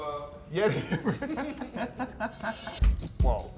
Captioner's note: laughs